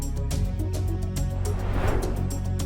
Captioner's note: suspenseful music continues; transition whooshing